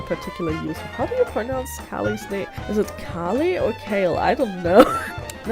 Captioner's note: laughs